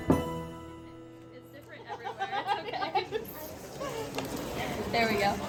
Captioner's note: customer laughing